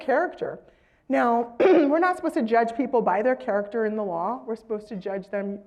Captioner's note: cough